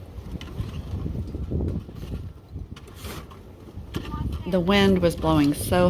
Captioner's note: wind blowing